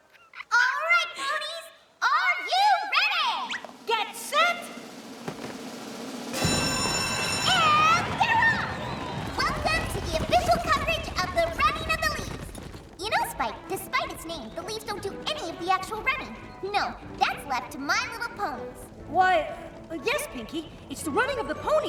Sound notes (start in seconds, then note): 6.3 bell rings